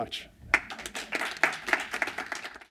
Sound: applause

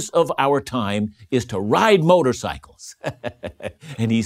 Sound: laughing

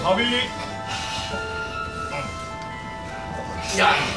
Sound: exhales

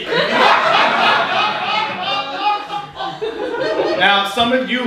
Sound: audience laughing

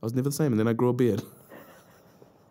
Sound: laughs

